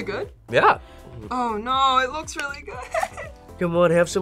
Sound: laughs

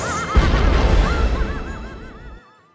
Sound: booooom

